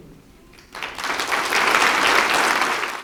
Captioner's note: applause